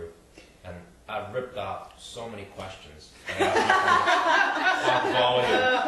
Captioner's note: group laughs